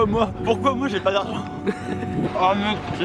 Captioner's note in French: rire